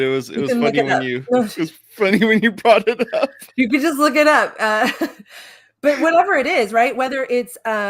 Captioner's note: laughing